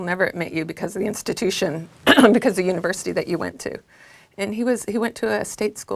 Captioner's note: cough